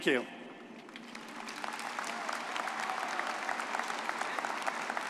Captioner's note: all applauding